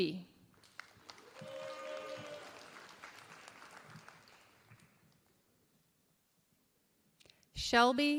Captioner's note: applause